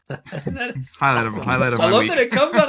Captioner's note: laughing